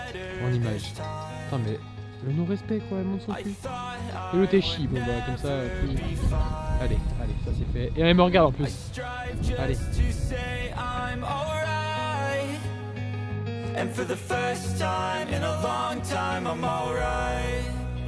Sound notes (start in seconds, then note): 5.6 laughs